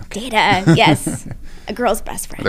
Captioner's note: laugh